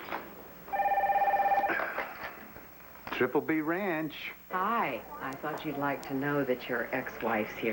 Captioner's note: telephone rings